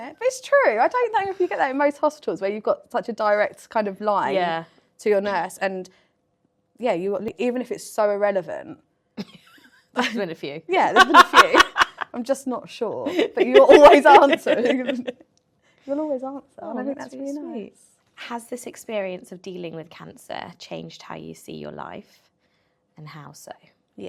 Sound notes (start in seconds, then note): 11.0 laughs